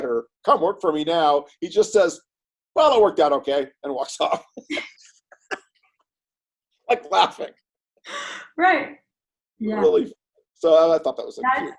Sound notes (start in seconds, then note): 5.3 laughs